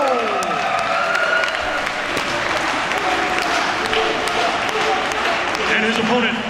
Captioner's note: applause